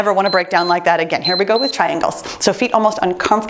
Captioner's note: timer beeps